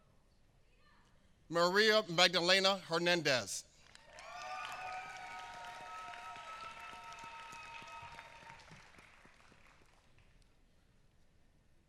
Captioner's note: applause